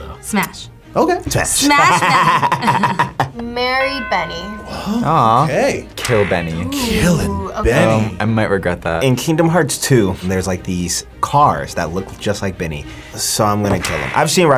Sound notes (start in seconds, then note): 1.6 laughs